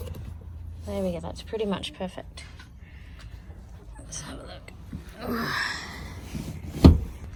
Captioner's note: seat clunks